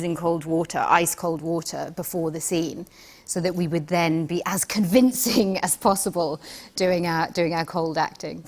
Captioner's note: none